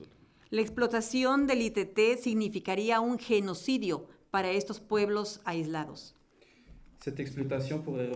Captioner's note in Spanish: Español